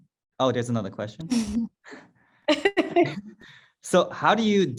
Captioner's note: laughs